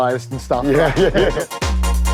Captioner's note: laughing